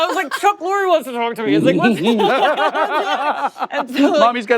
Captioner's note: laughter